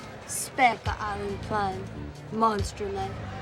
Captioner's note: speaking romanian